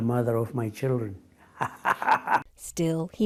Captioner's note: laughter